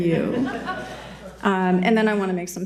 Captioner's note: attendees laughing